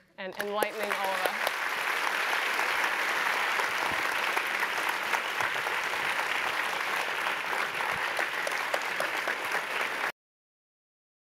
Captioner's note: applause